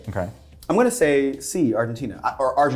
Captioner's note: none